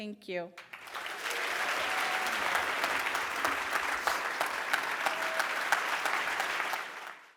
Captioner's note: applause